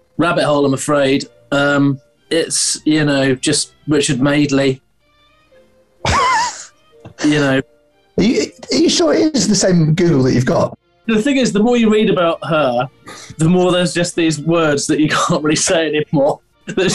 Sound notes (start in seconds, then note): 6.0 sniggering; 16.7 laughing